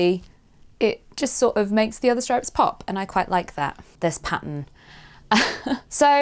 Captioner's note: chuckles